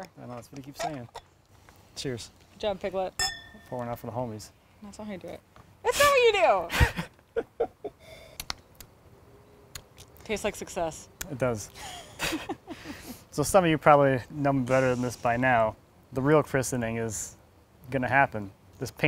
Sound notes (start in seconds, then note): 3.2 glass clinks; 6.7 laughs; 9.7 smacks lips; 11.8 laughs